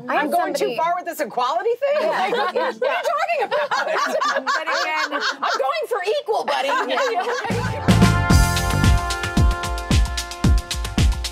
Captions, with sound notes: I'm going too far with this equality thing? What are you talking about? (laughter) I'm going for equal, buddy. (upbeat, rhythmic music)